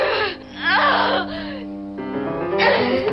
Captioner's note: woman gasping